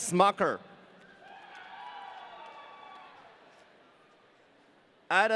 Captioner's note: audience cheering